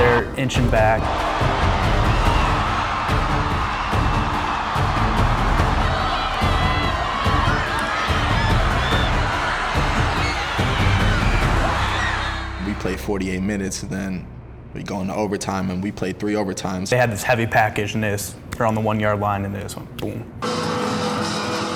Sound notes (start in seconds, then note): 0.0 dramatic music; 2.2 crowd cheering; 20.4 celebratory music